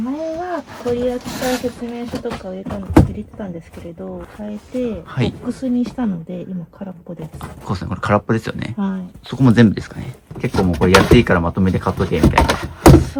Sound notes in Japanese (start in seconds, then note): none